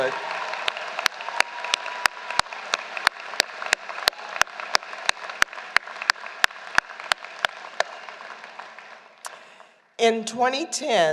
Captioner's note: applause